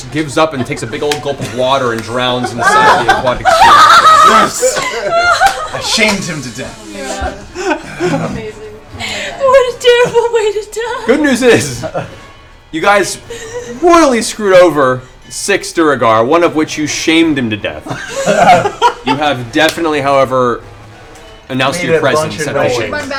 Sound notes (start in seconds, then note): 3.8 laughter; 7.2 laughs; 17.8 laughter